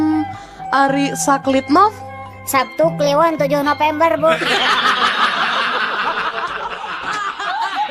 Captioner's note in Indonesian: tertawa